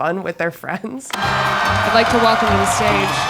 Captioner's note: audience cheering loudly